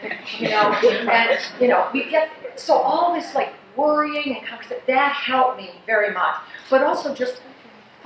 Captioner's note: laughs